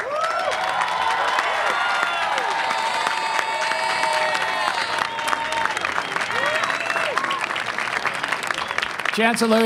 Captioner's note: cheering and applause